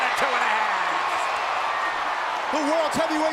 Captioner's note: crowd cheering